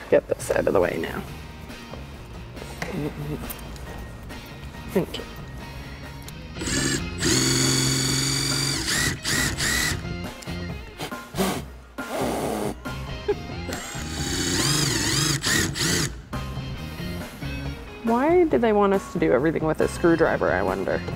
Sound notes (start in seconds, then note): 11.0 blowing; 13.2 laughing